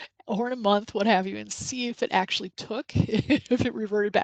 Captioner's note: laughs